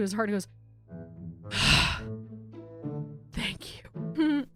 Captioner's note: sigh